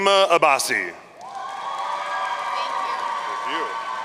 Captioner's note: audience cheering